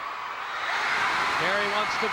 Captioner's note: audience cheering